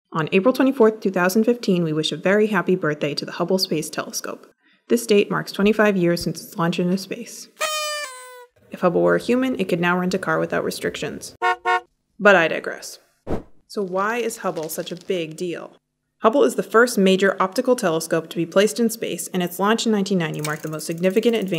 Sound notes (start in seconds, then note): 7.6 blowing party favor; 11.4 honking car horn